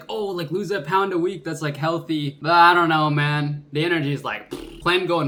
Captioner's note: fart noise